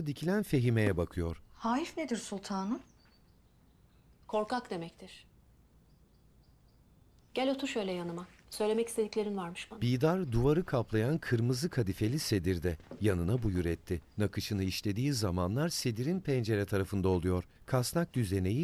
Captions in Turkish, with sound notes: Hayıf nedir sultanım? Korkak demektir. Gel otur şöyle yanıma. Söylemek istediklerin varmış bana. (Kuş cıvıltısı sesi)